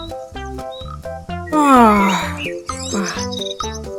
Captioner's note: yawns